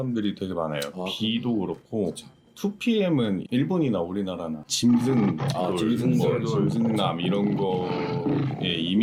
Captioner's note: roar